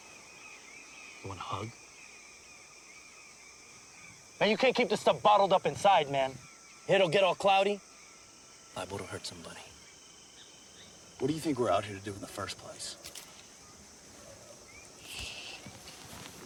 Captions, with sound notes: Want to hug? You can't keep this stuff bottled up inside, man! Head'll get all cloudy. Liable to hurt somebody. What do you think we're out here to do in the first place? (Twig snapping) Shh!